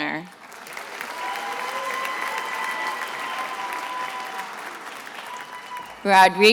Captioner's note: attendees applauding and cheering